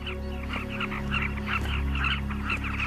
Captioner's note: squawking